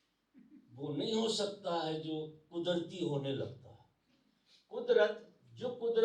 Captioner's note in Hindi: नाक से की जाने वाली आवाज़